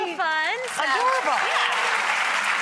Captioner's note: applause